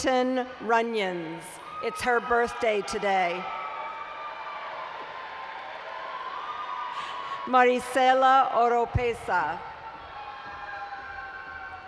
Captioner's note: cheering